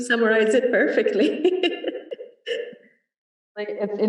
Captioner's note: laughter